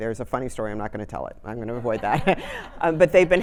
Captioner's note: audience laughing